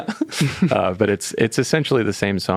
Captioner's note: laughing